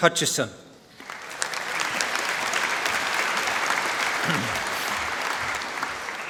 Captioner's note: applause